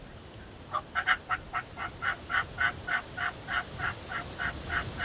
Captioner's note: turkey calling